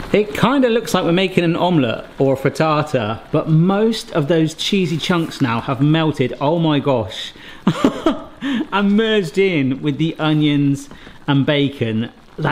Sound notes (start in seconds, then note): 7.6 laughs